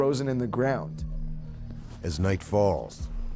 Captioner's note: voiceover